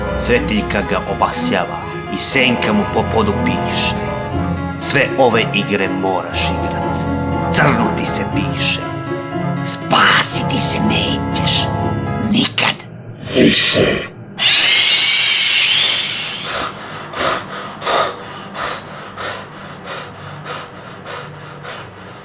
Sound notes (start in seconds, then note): 13.1 robotic voice; 14.3 horror sound; 16.8 scared